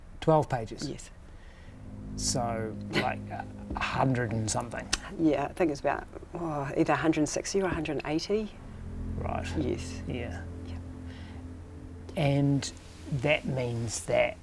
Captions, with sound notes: 12 pages. - Yes. - So, like, 100-and-something? - (CHUCKLES DRILY) Yeah, I think it's about, oh, either 160 or 180. - Right. Yeah. - Yes. (WHISPERS) Yep. - And that means that,...